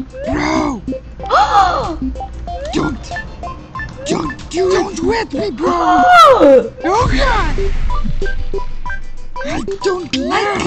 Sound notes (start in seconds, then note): 1.1 gasps; 5.5 gasps